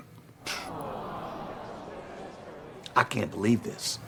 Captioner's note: audience moans